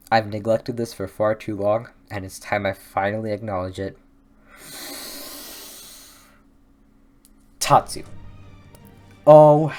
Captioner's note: deep breath